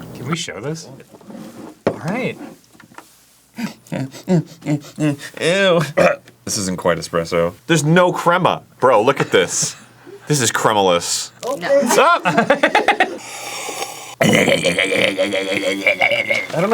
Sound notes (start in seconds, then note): 3.5 apprehensive sniff; 5.9 cough; 13.2 big sip